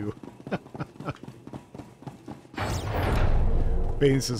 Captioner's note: laughter